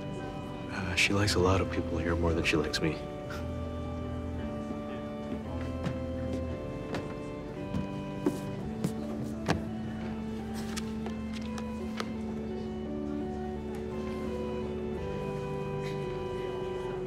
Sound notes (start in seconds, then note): 3.2 they both chuckle; 4.2 indistinct crowd chatter